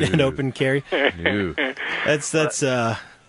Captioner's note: laughs